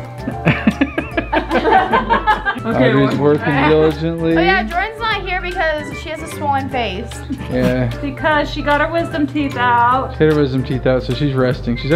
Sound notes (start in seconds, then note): 0.1 laughing; 7.0 laughs